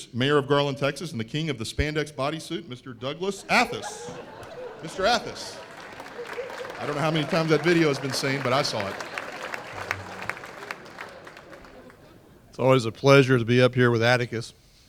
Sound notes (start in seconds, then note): 9.4 laughter and applause